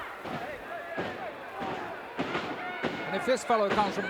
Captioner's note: feet thudding